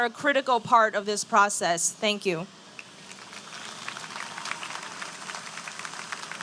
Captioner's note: applause